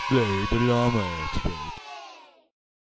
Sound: crowd of kids cheering

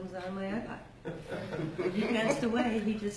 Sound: laughs

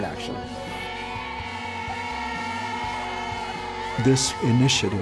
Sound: sisters cheer

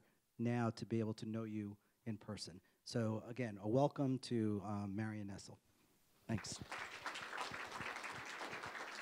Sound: applause

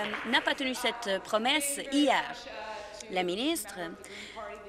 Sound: applause

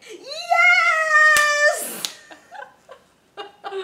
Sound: laughs

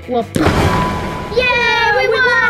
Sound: banging sound

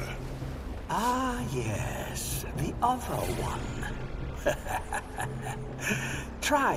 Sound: laughs

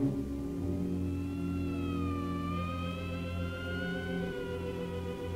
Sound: siren blaring

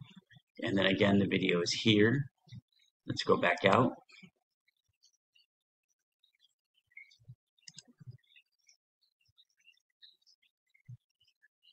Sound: mouse clicks

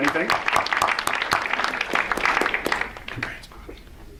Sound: audience applauds

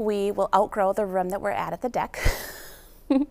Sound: chuckles

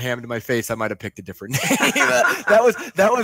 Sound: laughing

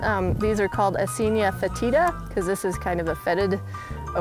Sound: speaking in a foreign language

